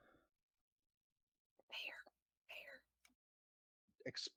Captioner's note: whispering